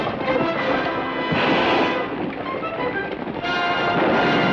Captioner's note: gun fires